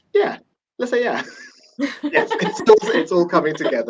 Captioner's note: laughter